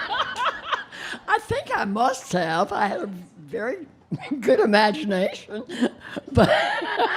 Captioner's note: laughing